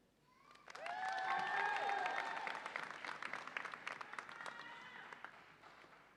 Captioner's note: audience applauds and cheers